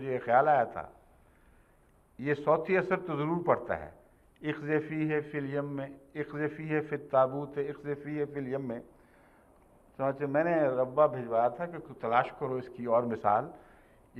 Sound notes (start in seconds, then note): 8.5 Arabic